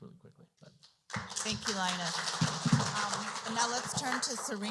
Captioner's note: applause